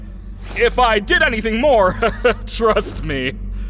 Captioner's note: laughs nervously